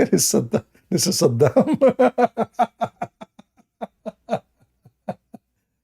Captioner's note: Ketawa